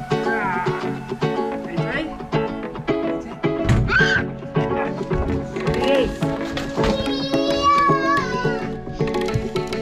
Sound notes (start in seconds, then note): 0.1 yells; 3.8 shrieks; 7.1 yells